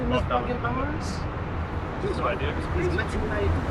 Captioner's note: cars passing